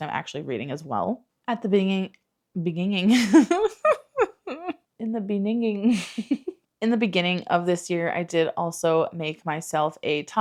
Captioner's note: laughs